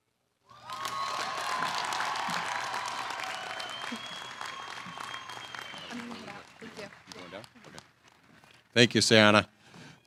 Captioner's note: applause